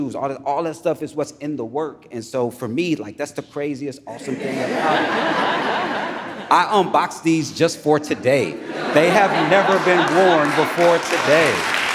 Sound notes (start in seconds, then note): 7.7 audience laughs